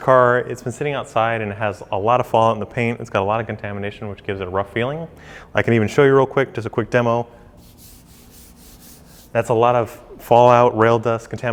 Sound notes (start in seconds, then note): 7.6 scratching